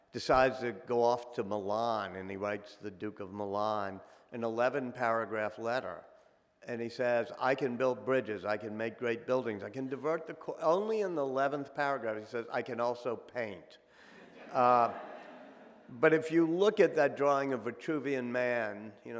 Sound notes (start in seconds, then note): 14.2 audience laughing